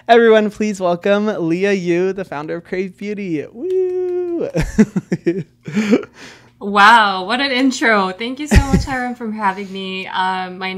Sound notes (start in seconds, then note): 3.6 claps; 3.6 chuckles